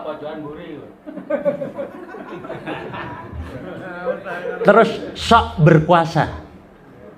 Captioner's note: laughs